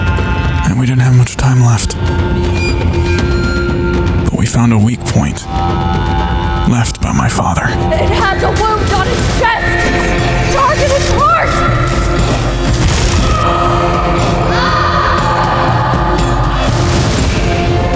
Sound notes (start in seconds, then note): 8.2 strained; 14.5 inora screaming in pain